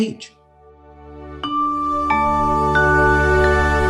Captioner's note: logo chiming